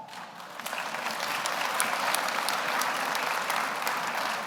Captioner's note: audience applauds